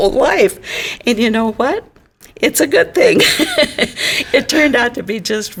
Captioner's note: laughs